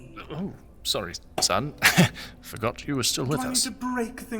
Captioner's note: awkward laugh